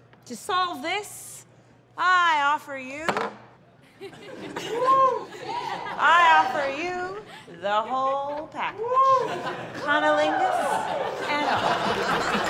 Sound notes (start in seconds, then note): 3.8 soft laughter and whooping; 8.3 laughter and whooping